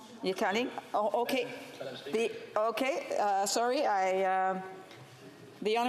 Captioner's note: speaking French